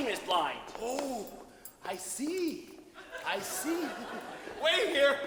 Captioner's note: audience laughs